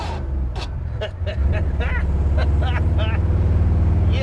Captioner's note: laughs